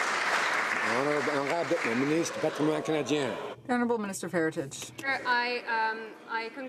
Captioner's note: some Applause